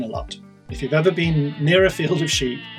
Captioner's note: sheep bleating